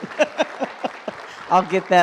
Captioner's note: laughs